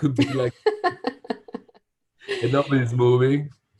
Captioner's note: laughing